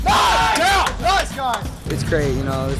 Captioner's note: cheering